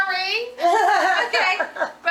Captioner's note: audience laughing